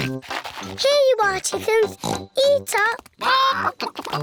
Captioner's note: oinks